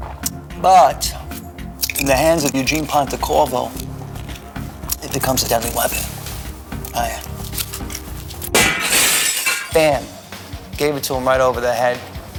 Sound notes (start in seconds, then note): 8.5 crash